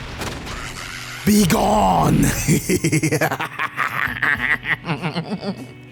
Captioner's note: crazy laughter